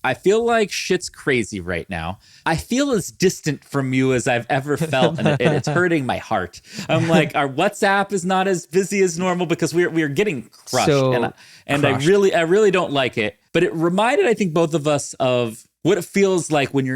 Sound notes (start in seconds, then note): 4.8 chuckles